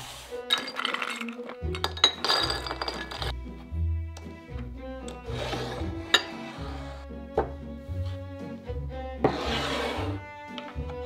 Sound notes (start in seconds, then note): 0.4 nuts dropping